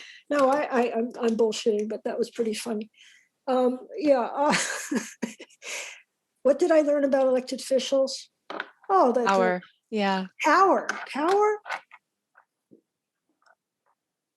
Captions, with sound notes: No, I'm bullshitting, but that was pretty funny. Yeah. [LAUGHS] What did I learn about elected officials? Power. Yeah. Power. Power.